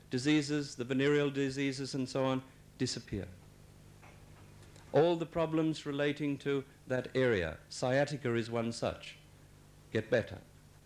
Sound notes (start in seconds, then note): none